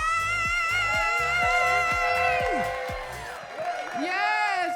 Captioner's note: crowd applauds; crowd cheers